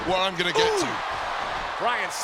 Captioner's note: audience cheering